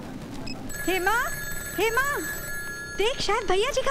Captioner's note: Phone rings